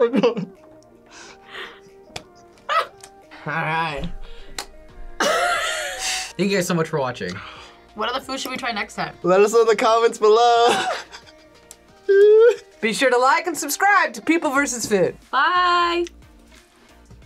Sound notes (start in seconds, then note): 5.2 laughs; 10.6 laughs; 12.0 whimpers